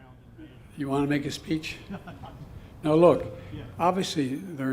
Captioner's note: laughter